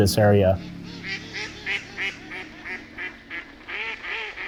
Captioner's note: ducks quacking